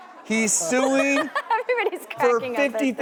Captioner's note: laughing